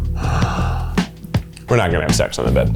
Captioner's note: gasps